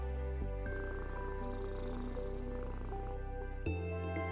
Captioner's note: cat purring